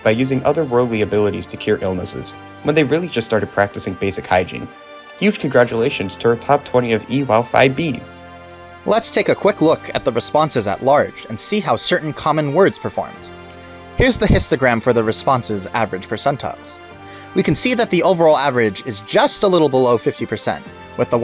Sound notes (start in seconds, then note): 14.0 mic peak